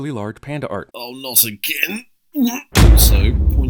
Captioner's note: gags